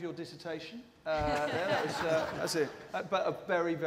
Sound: laughter

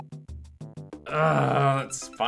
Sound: groans

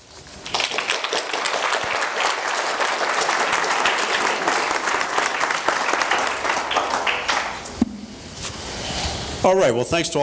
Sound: applause

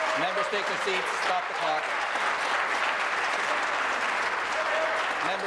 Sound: applause

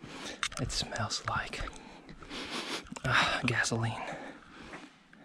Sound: sniffs

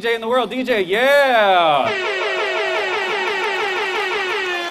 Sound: laser sounding

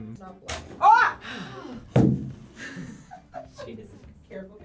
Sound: yells; both sigh

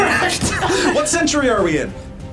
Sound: both laugh

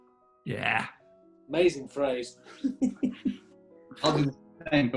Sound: giggles

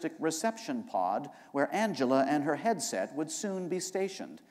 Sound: none

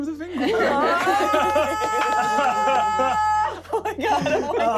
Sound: shouting

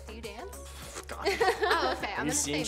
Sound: blows lips

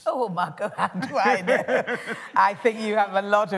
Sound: laughter

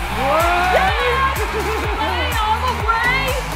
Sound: crowd cheering

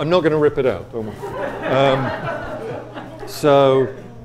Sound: audience laughs

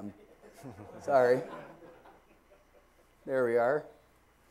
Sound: laugh

